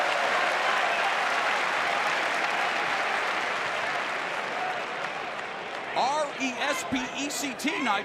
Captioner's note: crowd cheering